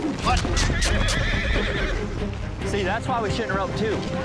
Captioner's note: horse neighs loudly